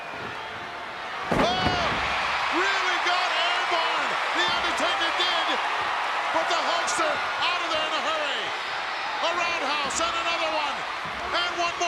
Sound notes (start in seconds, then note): 2.0 crowd cheers